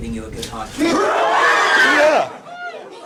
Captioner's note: people Screaming; people Laughing